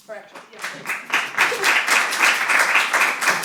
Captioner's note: applause